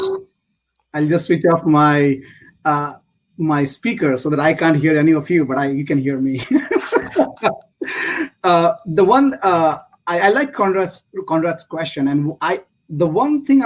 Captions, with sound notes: that I can't hear any of you but I you can hear me [LAUGH] the one I like Conrad's question and I The one thing I was focusing on in the question was I would